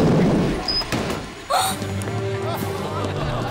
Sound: gasping

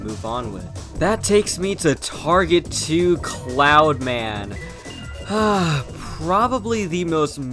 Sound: sigh

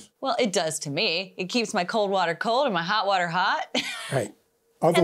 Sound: laughs

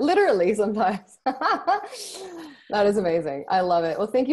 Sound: laughs

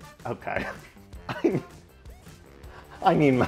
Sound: laughs

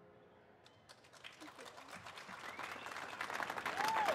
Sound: applause

